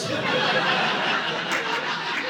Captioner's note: audience laughing